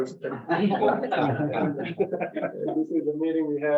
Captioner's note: members laugh